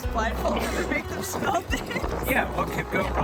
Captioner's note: laughing